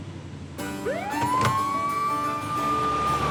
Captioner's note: siren wailing